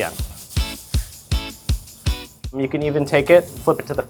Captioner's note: steak searing; upbeat music